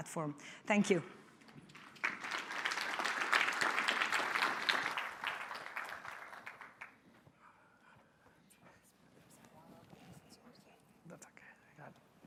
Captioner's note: applause